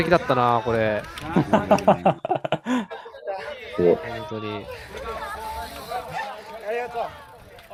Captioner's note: laughter